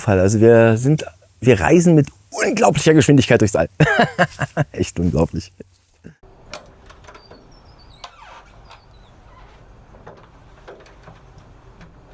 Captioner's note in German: gelächter